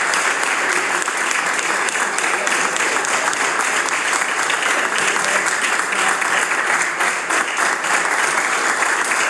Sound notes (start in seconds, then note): 4.1 cheering/Applause